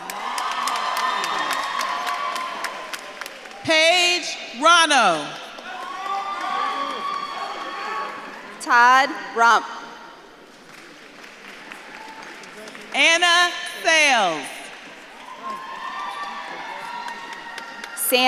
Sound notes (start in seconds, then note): 0.0 audience claps and cheers; 7.6 audience members shouting; 10.9 audience claps and cheers; 15.2 audience claps and cheers